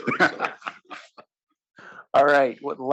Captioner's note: laugh